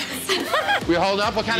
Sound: guests giggling

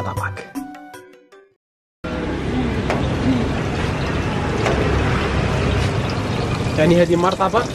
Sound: engine sound

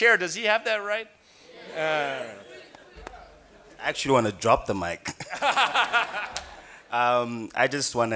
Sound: laughing

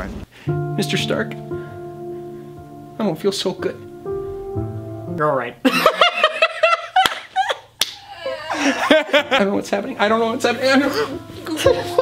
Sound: both laugh; more giggling

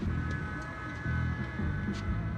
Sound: blows air

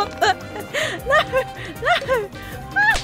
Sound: laughing frantically

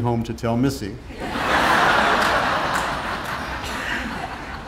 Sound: audience laughing

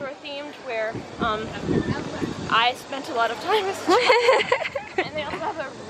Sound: laughs

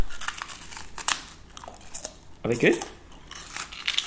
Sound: crunching

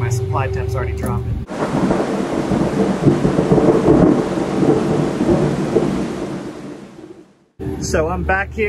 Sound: thunder

